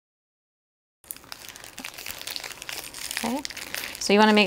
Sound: wrapper crackling

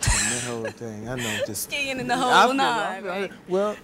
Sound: laughing

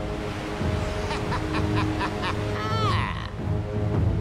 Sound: laughing

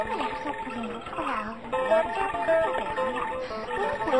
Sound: arabic music; alien language

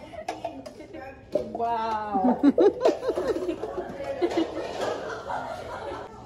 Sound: giggles

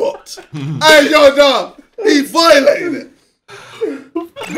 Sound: all laughing

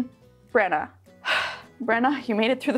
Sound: sighs

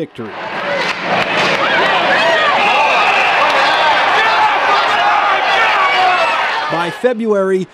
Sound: yelling

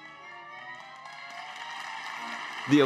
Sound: applause

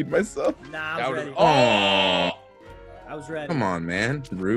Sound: laugh

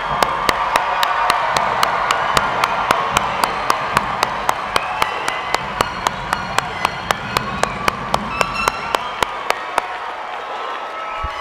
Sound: cheering

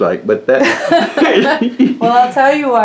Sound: laughter

